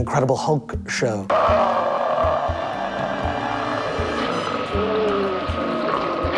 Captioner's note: growling